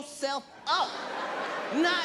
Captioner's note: audience laughs